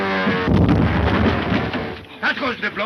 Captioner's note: bomb exploding